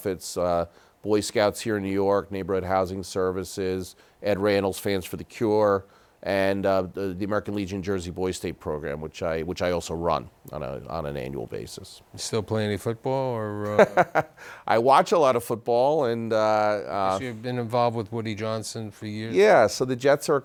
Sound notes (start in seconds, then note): 13.6 laughter